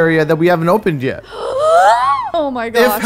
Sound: gasps

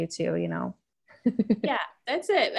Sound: laughter

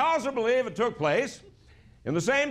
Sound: laughter

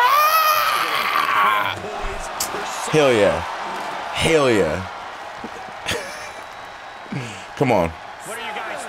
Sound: laugh

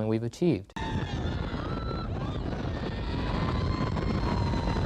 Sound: screaming

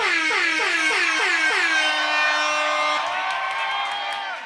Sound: air horn blares; audience cheers

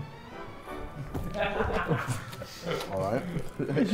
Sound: Sidemen laughing

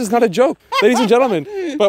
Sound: woman laughing

